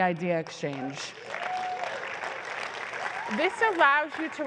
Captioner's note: applause